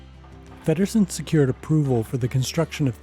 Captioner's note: voiceover